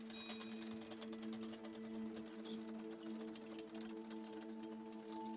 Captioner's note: wheels whirring